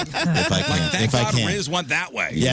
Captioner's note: laughing